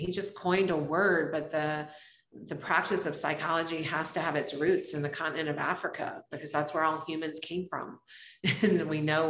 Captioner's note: laughs